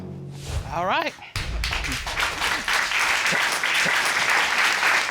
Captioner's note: audience applauding